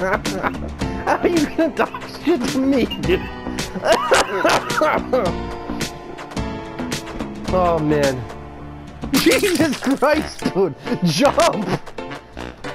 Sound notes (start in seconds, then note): 0.0 laughing; 3.7 laughing; 9.2 laughing, choking